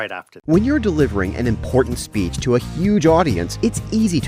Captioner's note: voice-over